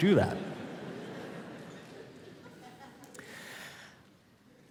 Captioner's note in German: Publikum lacht